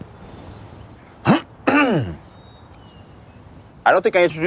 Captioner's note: man grunts